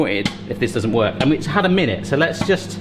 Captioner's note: popping